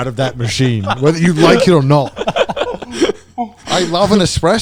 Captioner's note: laugh